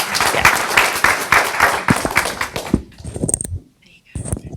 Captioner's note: audience applauds